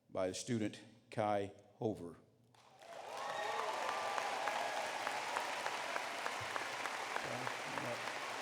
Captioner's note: applause